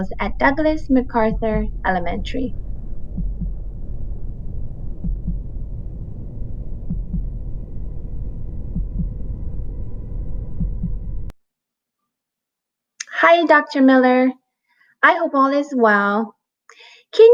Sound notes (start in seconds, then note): 1.1 heart thumping